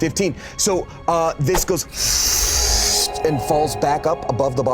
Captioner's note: sucks air in